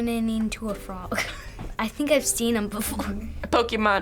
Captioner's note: chuckles